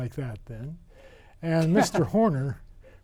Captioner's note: man laughing